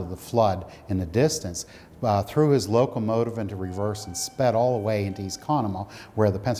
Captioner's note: warning sound